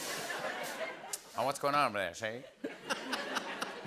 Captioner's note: laughter